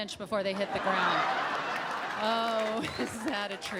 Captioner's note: audience applauds